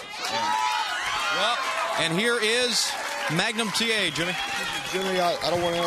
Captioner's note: crowd cheering